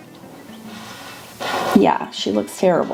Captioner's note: marker scratching